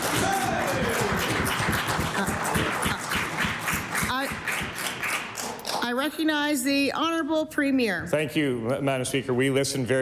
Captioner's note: cheering/Applause